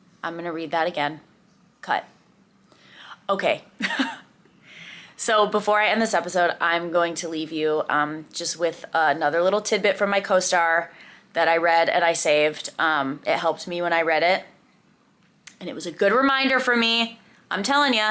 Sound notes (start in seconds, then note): 3.8 chuckles